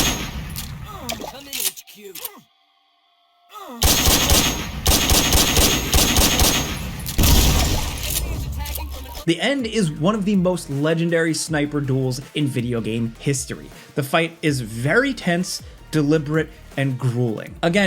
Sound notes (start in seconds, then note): 1.4 character groaning; 3.8 gunshots echoing